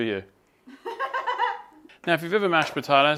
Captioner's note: laughs